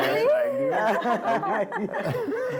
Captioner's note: laughing